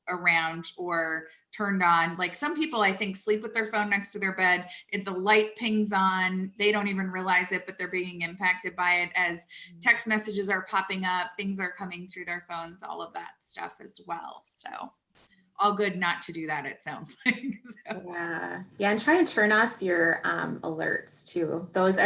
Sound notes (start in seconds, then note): 18.1 chuckles